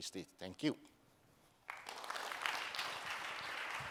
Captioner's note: applause